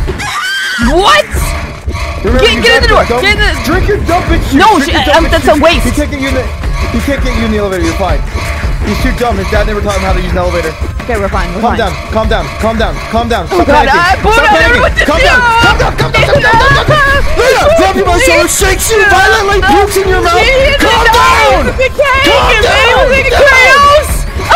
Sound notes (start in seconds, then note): 14.7 panic noises